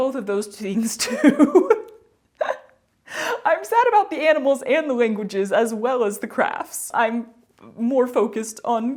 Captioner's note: laughter